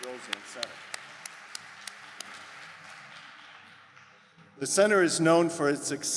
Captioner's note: audience applause